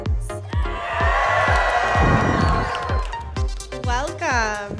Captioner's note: crowd cheers